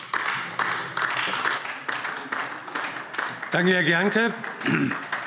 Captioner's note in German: Beifall DIE LINKE